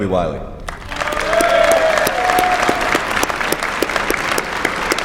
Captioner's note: applause